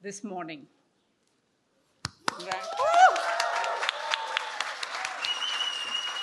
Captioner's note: cheering